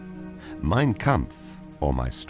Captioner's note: speaking in foreign language